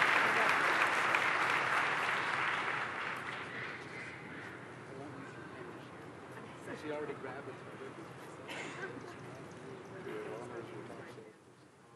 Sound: applause

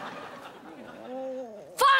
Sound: groaning

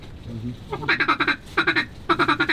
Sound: duck calling

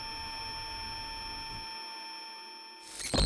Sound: whirring

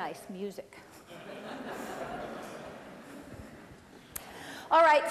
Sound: laughter

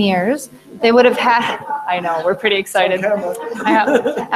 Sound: laughing

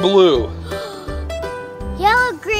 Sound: assistant gasps

